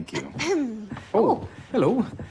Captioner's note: clears throat